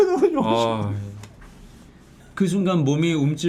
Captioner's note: crying